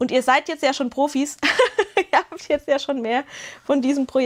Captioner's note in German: gelächter